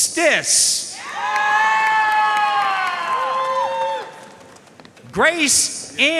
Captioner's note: audience cheering and applauding